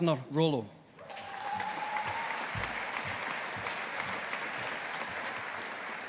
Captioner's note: audience applauding